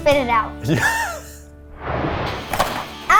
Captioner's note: laughs; animated explosion booming; cereal box thudding